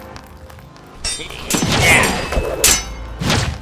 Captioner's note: occasional grunts